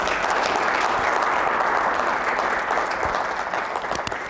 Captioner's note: applause